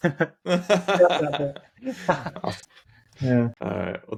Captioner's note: laughing